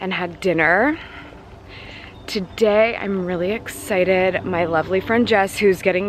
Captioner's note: none